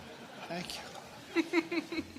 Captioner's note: laughter